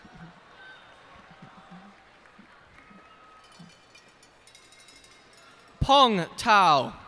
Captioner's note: cheers and applause